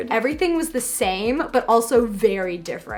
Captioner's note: none